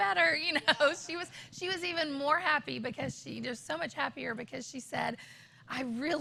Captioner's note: laughter